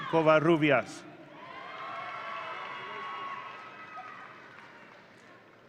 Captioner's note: audience cheering